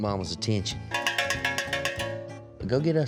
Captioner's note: ringing